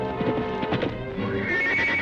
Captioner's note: horse hooves clopping; horse neighing